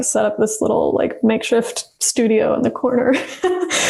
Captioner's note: laughs